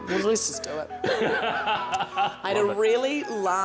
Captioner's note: laughter